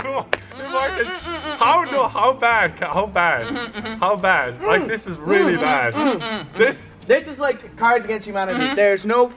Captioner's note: spit out water